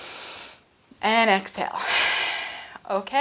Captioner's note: exhales; inhales